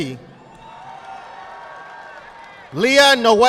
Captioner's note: audience clapping